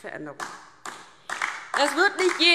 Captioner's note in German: Beifall DIE LINKE